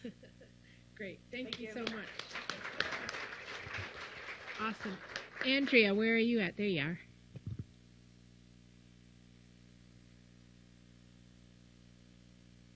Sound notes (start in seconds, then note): 1.4 applause